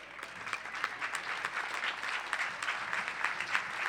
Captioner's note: applause